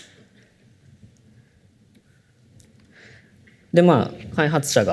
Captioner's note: silence